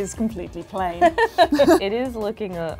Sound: laughs

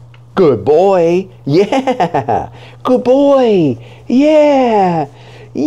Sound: laughing

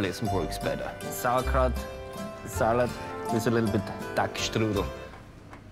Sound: speaks German

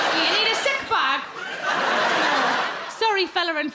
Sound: crowd laugh

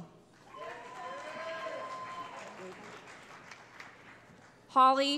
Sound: cheering

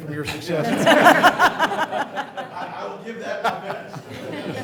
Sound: laughter

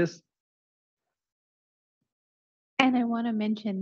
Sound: silence

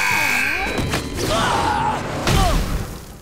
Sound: groaning

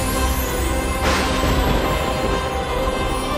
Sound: lightning crackling

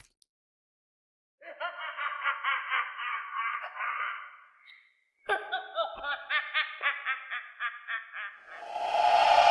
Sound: woman laughing with malice

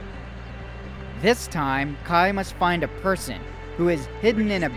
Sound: voiceover

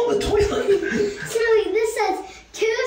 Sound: child laughing

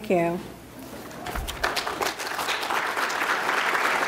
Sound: applause

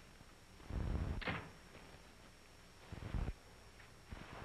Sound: door closes

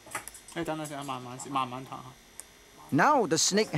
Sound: speaking in foreign language

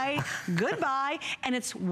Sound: laughter

